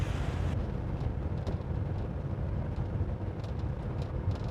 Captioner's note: car rumbles